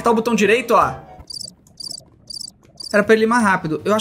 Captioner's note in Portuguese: som de grilo